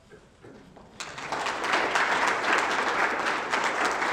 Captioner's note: applause